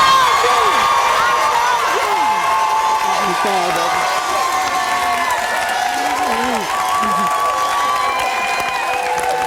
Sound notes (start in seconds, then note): 2.3 audience cheering; 4.6 audience applauding